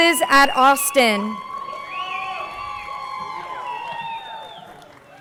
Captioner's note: crowd cheering